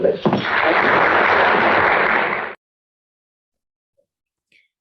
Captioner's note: audience clapping